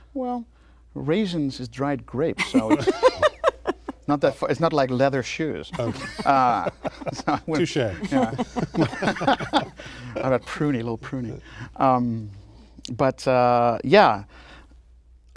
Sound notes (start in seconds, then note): 5.7 laughter